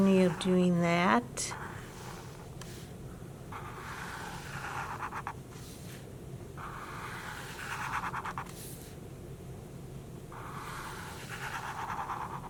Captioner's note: marker scratching